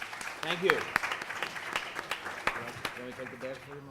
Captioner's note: applause